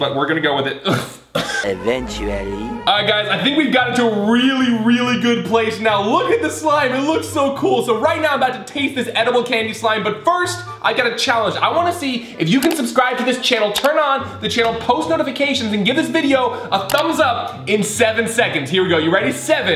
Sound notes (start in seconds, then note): 0.9 coughing